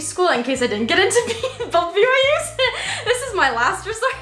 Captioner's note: laughs